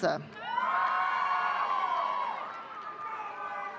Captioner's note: audience cheering